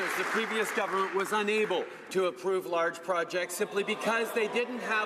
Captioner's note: applause